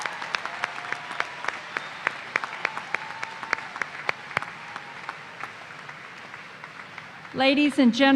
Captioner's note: applause